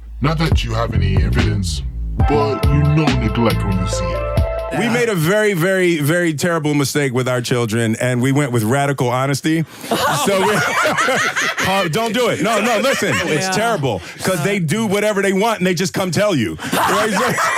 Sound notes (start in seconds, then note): 10.0 cackling witch laughter; 16.7 laughter